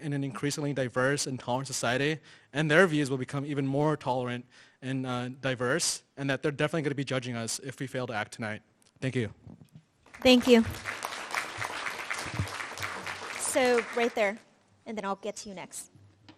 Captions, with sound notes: in an increasingly diverse and current society and their views will become even more tolerant and diverse. And that they're definitely gonna be judging us if we fail to act tonight. Thank you. - Thank you. (audience clapping) So right there, and then I'll get to you next.